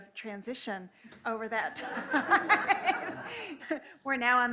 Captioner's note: laughing; laughs